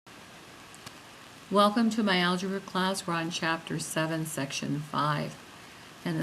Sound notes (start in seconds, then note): 1.6 voiceover